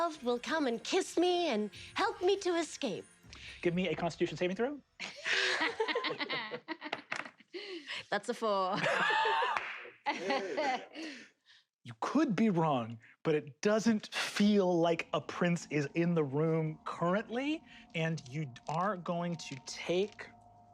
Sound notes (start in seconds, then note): 5.0 laugh; 10.0 laughs and claps